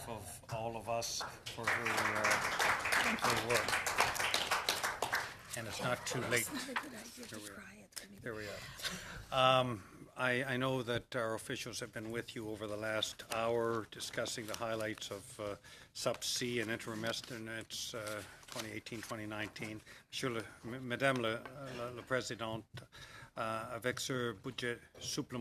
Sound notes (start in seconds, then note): 7.1 applause